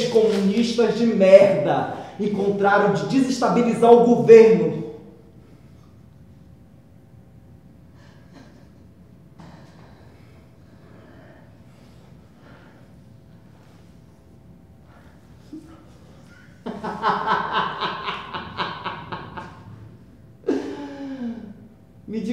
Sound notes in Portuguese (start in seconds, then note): 4.7 risada